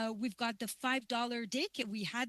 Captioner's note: speaking French